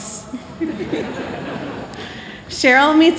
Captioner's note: laughter